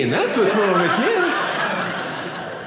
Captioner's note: audience laughing